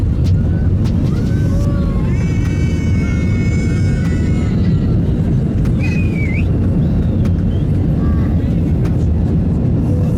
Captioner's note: passengers cheering again